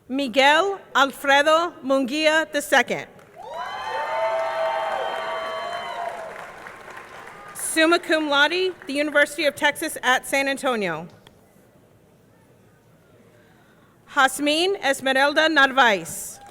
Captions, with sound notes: Miguel Alfredo Munguia II. (audience cheering) (audience clapping) Summa cum laude, the University of Texas at San Antonio. Jazmin Esmeralda Narvaes.